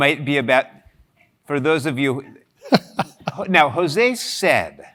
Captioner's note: laugh